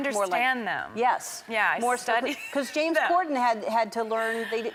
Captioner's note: laughs